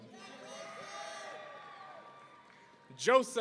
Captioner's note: audience cheering